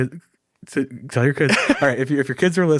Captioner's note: laughing